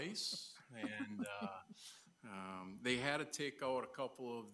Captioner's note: laughing